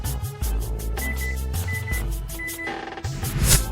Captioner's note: inputting door code